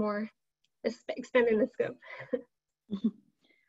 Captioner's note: chuckles